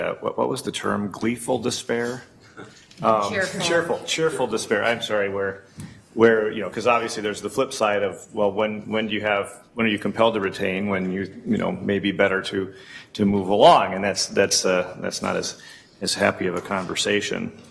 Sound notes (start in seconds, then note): 2.4 chuckles